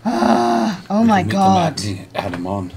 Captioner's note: groans